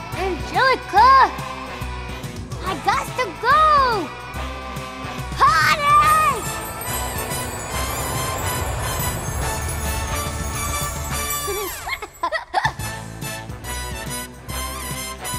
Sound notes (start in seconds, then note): 5.5 upbeat music; 11.8 Tommy giggling